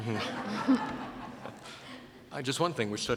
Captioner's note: laughter